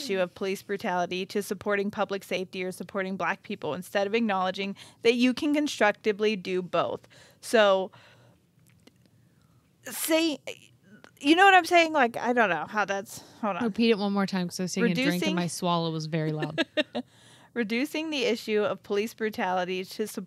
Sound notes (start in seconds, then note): 15.1 murmurs; 16.3 chuckles